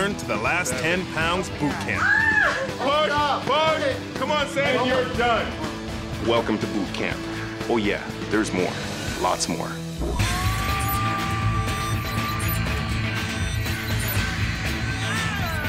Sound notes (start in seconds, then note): 2.0 screaming; 10.0 upbeat music